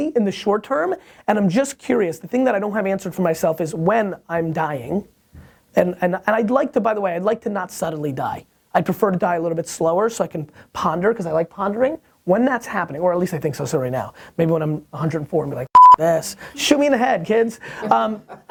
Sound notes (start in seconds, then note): 15.7 beeps; 17.7 laughs